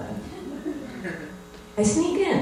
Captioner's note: laughter